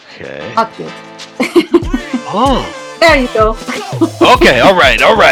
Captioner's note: laughing